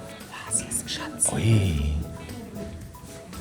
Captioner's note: whispers